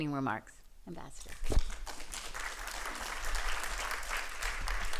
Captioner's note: applause